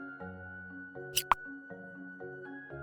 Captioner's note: click sound